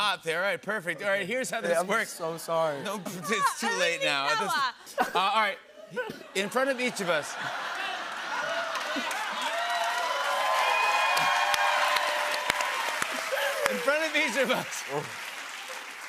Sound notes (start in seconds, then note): 6.3 laughter; 8.9 cheers and applause